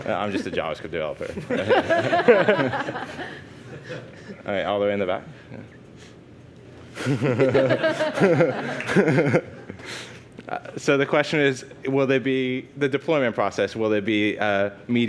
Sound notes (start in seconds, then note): 1.3 crowd laughs; 7.0 laughs